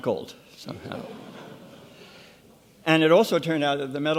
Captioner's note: audience laughs